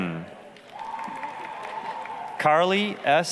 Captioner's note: applause, cheering